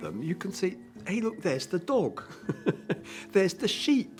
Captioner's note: laughing